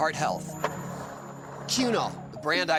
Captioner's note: skateboard wheels roaring